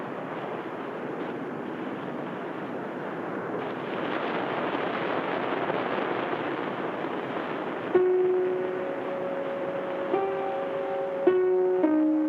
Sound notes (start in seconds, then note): 4.1 waves crash; 8.0 tense eerie music